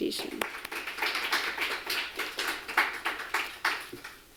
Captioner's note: applause